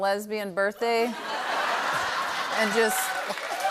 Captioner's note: laughter